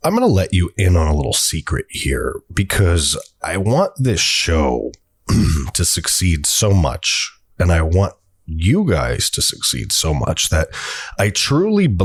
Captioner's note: sarcastic voice